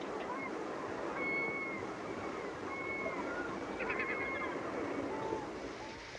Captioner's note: seagulls and waves becoming louder